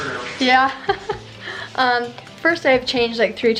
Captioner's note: laughs